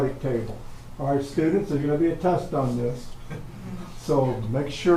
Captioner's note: a few audience member chuckle and a few moan